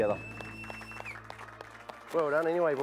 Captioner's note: crowd clapping